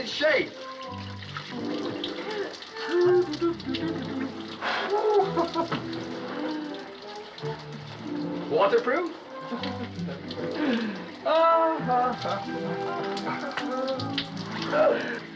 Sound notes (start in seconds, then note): 4.6 chuckles; 9.3 chuckling; 12.2 sighing